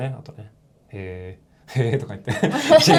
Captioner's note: laughs